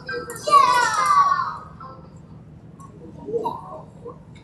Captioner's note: children chatter